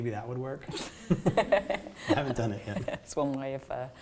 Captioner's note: laughter